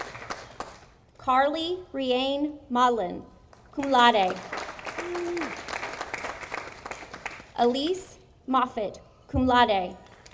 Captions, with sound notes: Carley Rae Modlin, cum laude, (audience applauding) Alyse Moffitt, cum laude,